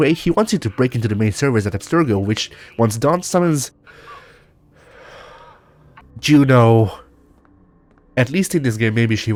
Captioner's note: sigh